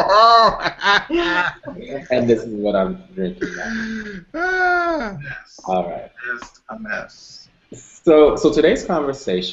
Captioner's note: laughter